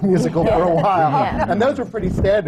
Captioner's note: laughter